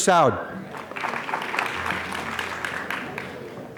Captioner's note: applause